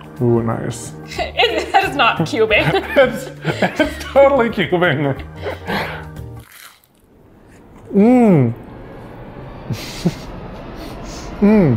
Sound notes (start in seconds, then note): 6.3 Krispie crunching; 9.0 ominous music